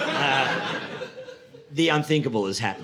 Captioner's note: audience laughing